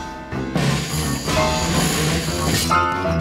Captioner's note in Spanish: sonido de sierra